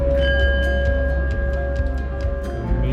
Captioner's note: calm music playing; sound of bowl singing